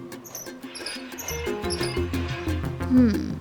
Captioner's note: pump creaking